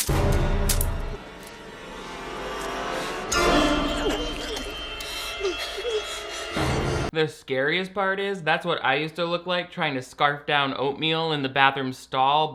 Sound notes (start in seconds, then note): 0.0 tense music; 1.9 fabric tearing; 1.9 music intensifying; 5.0 girl panting